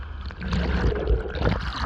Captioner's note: underwater sounds